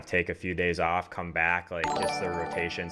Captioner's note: ringing sound